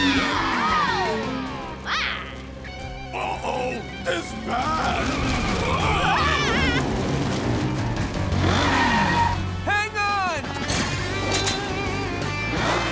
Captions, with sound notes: Oh! My... Uh-oh! This bad! [screaming] Hang on!